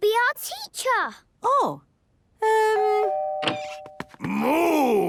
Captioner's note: doorbell ringing